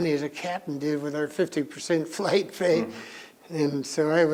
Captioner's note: laughs